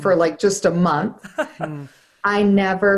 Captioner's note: laughing